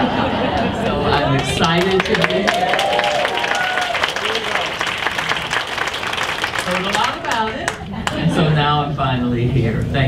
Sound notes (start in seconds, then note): 2.4 audience applauds